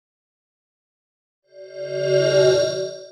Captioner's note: swoosh